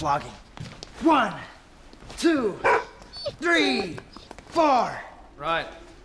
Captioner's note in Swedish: hund skäller